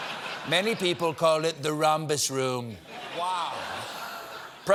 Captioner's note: laughter